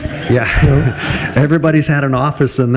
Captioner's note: group laughs